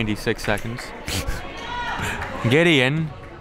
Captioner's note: laughs